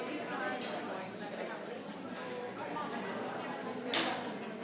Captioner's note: group chattering